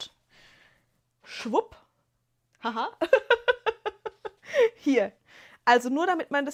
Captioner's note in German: gelächter